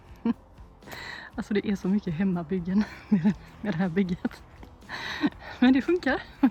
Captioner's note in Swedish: skratt